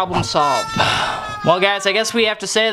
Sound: sighs

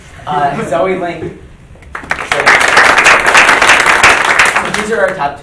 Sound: applauding

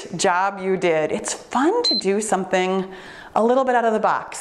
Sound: timer beeps

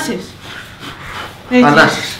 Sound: deep breaths

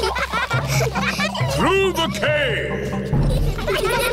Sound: echoing

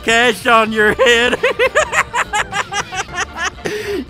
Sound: laughter

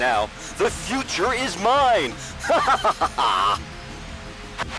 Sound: laughter

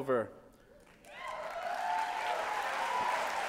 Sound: applause

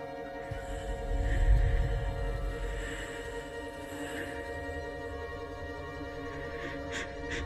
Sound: eerie music; creepy woman wheezes

